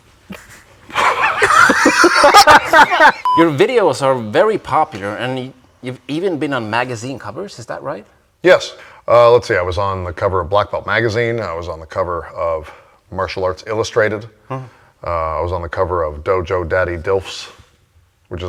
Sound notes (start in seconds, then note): 0.3 both laugh